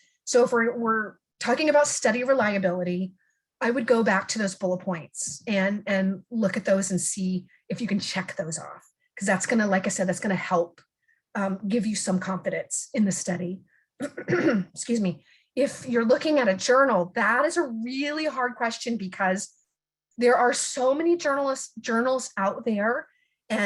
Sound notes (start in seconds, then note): 14.0 clears throat